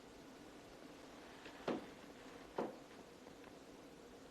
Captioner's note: footsteps